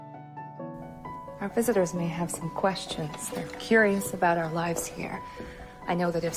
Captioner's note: voiceover